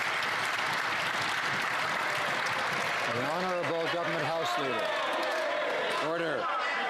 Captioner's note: some Applause